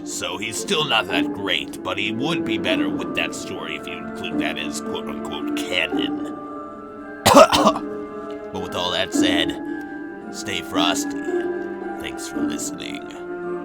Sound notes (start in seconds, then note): 7.2 coughs